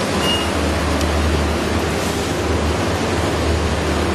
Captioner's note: device beeping